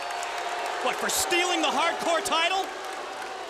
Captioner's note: crowd cheering